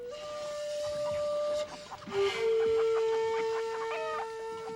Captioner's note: chickens clucking